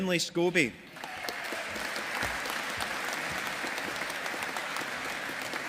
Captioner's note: audience applauding